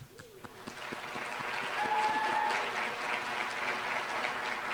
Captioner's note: applause